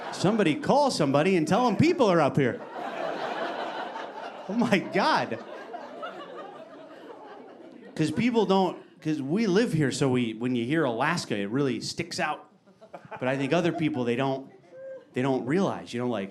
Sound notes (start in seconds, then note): 2.4 audience laughing